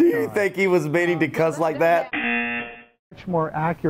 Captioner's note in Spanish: zumbador